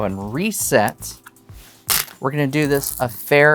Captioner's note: stones rattling